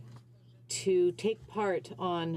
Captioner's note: speaking French